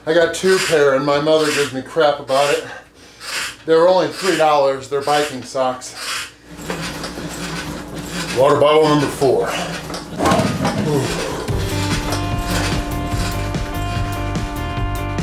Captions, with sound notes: I got two pair, and my mother gives me crap about it. They were only three dollars, they're biking socks. Water bottle on the floor. (water bottle clunks) (fast tempo music)